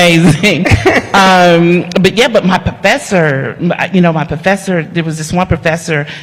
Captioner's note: laughter